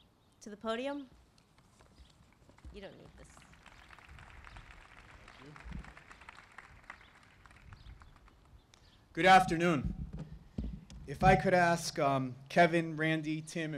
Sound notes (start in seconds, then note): 6.7 applause